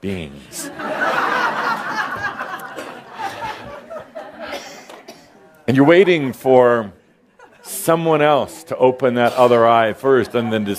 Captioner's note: laughter